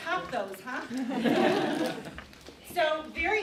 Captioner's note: audience laughing